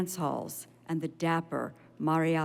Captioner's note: none